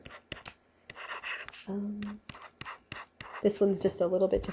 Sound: scribbling

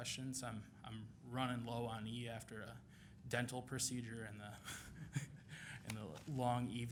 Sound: chuckles

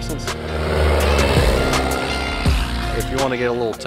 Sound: plane engine revving

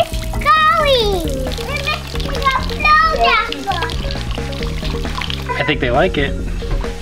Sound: kids chattering

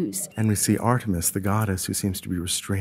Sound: voiceover

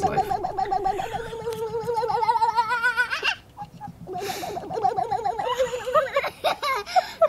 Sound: child babbles; child laughs; laughs

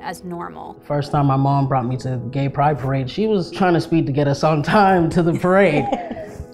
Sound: laughing

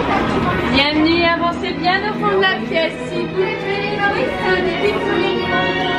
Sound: attendant speaking in French

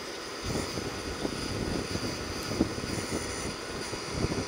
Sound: whooshing

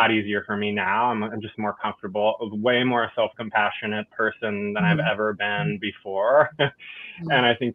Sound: laughs

